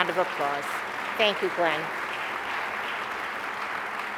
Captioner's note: applause